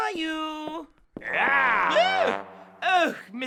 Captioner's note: tiger noise